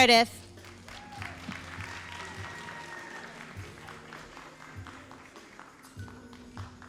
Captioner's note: all applauding and cheering